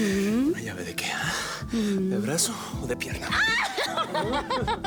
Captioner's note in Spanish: Él jadea; Risas